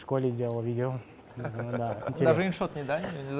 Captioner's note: laugh